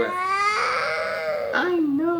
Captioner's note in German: DJ weint